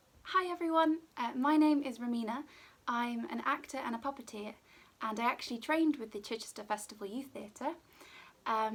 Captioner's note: none